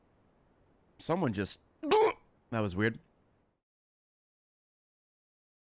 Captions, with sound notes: Someone just-- (glugs) that was weird.